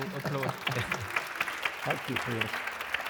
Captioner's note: audience applauds